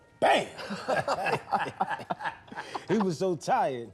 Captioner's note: laughing